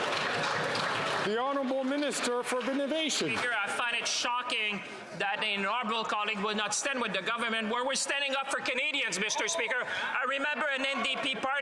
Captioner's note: some Applause